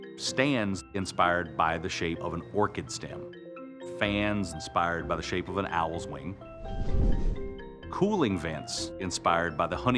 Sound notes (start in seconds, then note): 6.6 air rushes against wings